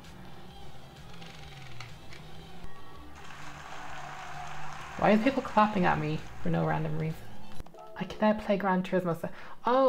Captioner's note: clapping